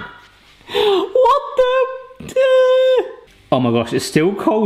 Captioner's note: yells